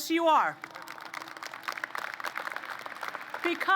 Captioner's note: applause